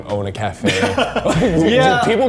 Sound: laughter

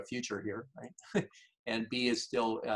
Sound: chuckles

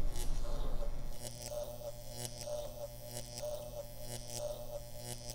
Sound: electricity zapping rhythmically

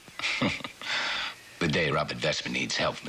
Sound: laughs

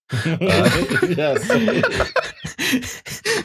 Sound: laughter

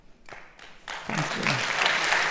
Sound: audience applauding

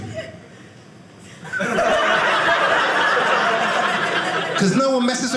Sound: audience laughing

